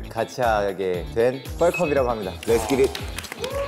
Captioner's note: bling bling